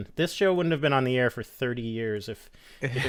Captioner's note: laughter